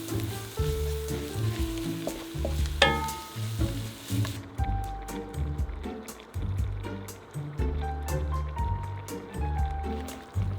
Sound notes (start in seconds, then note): 4.6 simmering